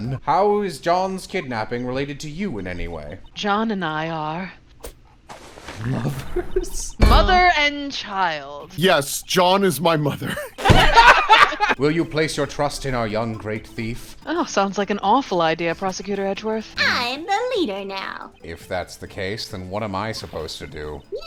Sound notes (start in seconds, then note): 10.3 laughter